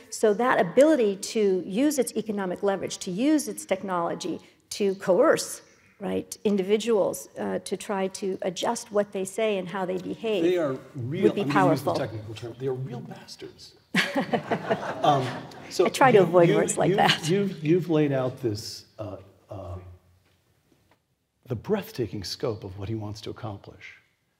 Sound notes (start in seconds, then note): 13.9 laugh